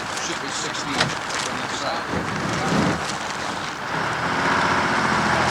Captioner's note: engine rumbling